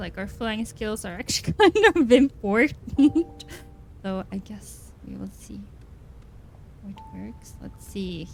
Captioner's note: laughs